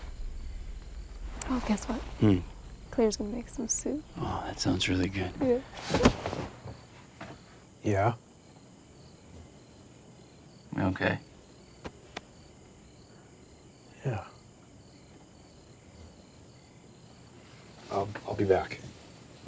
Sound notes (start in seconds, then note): 8.9 crickets chirping; 11.4 hand patting; 14.8 crickets chirping